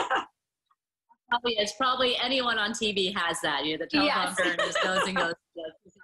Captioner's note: laughter